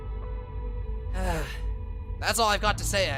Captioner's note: sigh